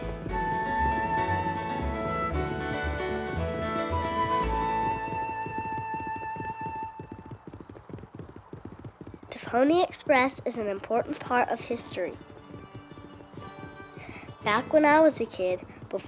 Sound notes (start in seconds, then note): 0.0 whimsical music; 5.5 hooves thudding